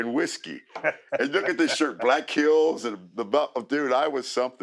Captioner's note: laugh